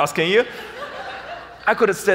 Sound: audience laughs

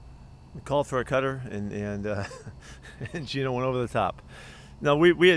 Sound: laughter

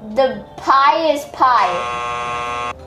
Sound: buzzer buzzing

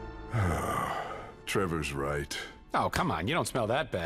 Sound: sighs

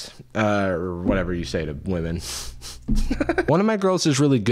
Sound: laughs

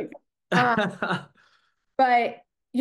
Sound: laughs

